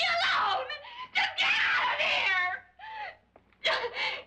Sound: screaming; sobbing

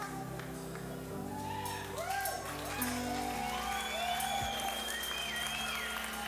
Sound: audience applauding and cheering

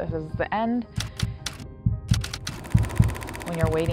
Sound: typewriter clicks, heartbeat

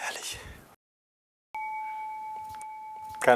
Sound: dong

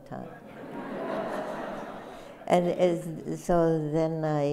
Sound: laughter

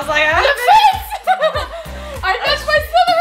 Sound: giggles

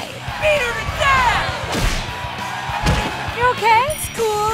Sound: cheering

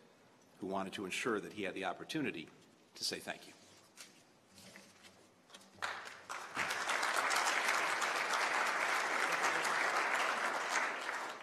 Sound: applause

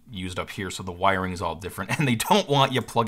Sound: chuckles

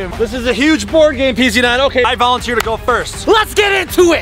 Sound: claps hands

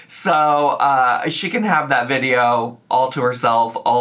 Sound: none

